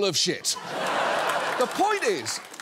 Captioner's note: laughter